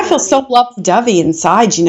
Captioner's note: laughing